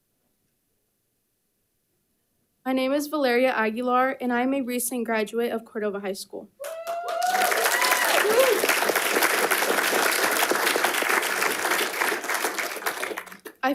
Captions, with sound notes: My name is Valeria Aguilar, and I'm a recent graduate of Cordova High School. (attendees cheers and applauds)